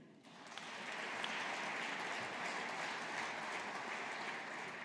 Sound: audience applauding

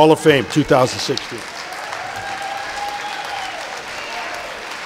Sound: audience applauding

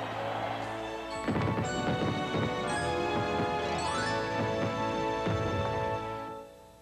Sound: fireworks over instrumental ending of song

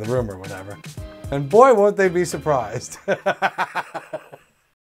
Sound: laughs

